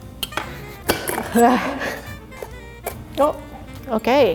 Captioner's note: knife scraping; gasp